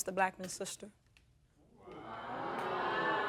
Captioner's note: audience exclaiming